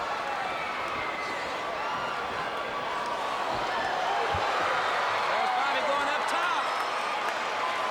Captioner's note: crowd chatter